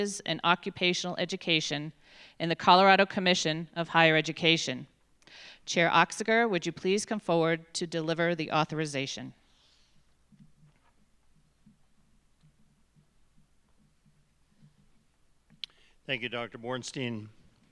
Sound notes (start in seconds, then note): none